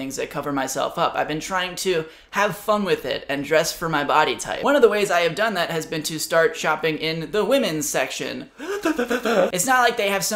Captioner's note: gasps